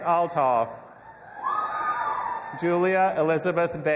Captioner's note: audience applauding and cheering